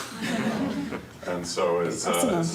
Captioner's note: students murmuring